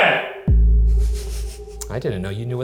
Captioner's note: giggling